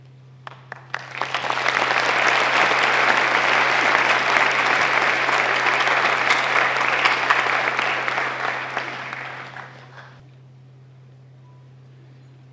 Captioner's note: applause